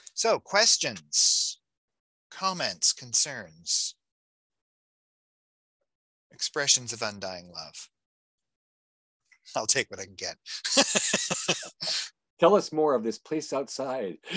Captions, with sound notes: So questions, comments, concerns, expressions of undying love? I'll take what I can get. (laughing) - Tell us more of this place outside.